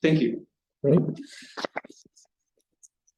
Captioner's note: silence